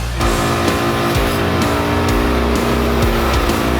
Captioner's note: saw grinding